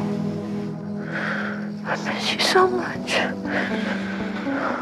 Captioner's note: sobs